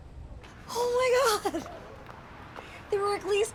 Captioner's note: laughs